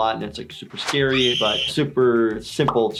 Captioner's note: screaming